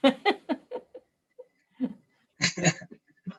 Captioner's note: chuckling